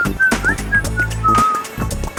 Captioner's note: whistling